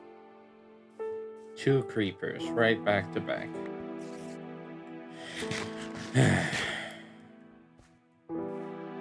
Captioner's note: sigh